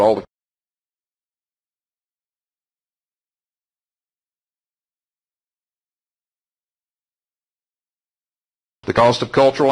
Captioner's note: silence